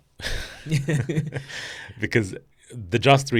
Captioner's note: both laughing